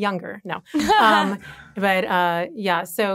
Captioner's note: all chuckling